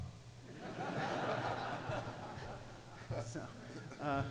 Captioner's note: audience laughs